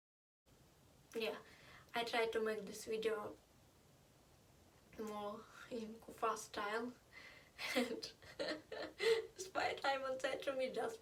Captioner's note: laught